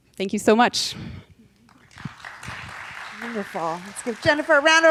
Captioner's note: audience applauding